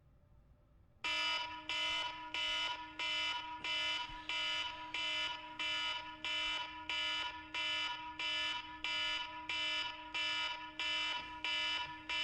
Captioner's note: alarm blaring